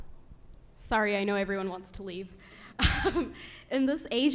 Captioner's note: laughs